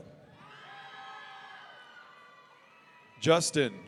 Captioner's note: audience cheering